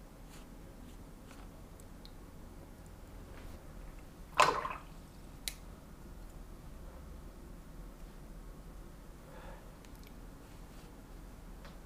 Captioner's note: silence